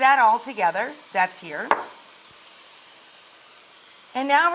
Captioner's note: bowl taps counter